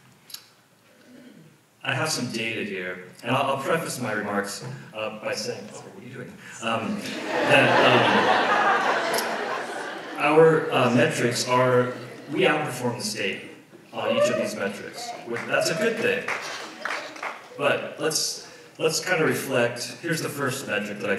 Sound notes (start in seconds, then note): 6.9 audience laughs